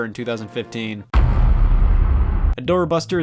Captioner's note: heavy thud